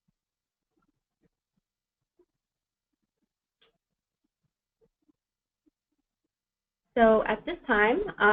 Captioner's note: pause